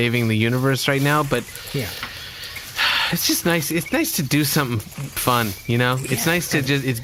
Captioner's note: sighs happily